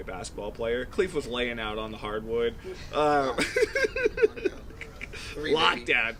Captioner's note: laughing